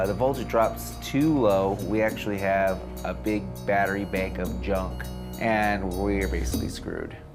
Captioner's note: none